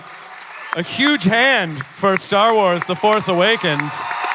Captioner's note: audience cheering